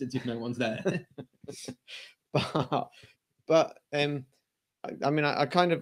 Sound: laughter

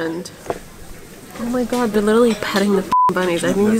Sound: beep

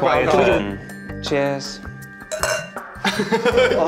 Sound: glasses clink; laughing

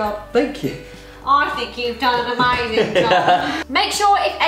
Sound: nasally voice

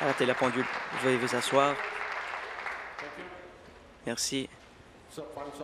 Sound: applause

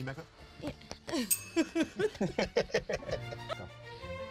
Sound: laughing

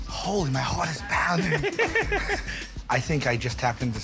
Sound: laughter

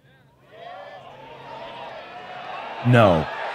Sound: crowd cheering

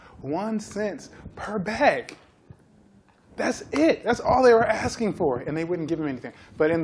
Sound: none

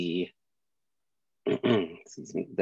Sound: clearing throat

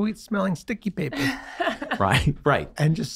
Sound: laughing

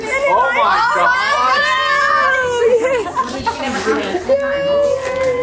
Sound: mom chuckles

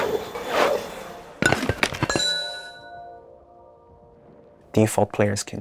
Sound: metal clanking

